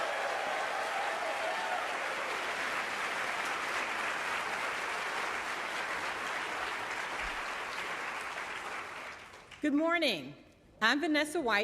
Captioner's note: cheering and applauding